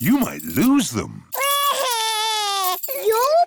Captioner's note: crying